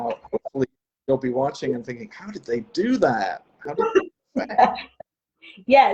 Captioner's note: laughs